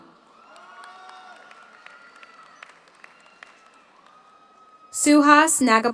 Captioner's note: audience cheers; audience applauds